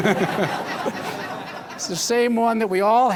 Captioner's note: laughter